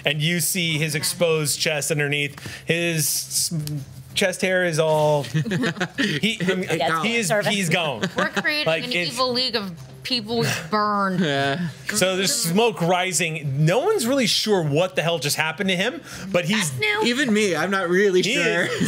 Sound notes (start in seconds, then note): 5.2 laughs